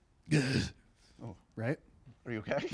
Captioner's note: grunts